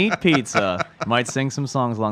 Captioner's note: laughs